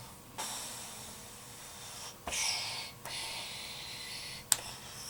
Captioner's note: Eric exhales